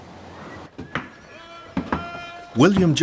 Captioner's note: man shouts in the far distance